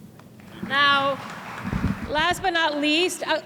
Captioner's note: applause